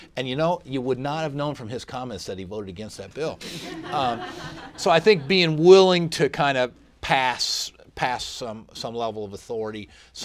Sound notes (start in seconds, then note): 3.5 laughter